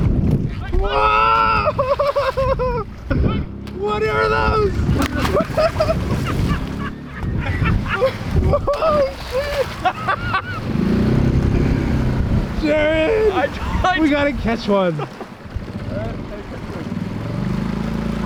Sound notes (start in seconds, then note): 1.5 laughs; 4.5 fishes splash; 5.8 guys laugh; 9.9 laughs